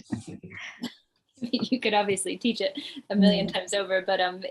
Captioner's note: laughs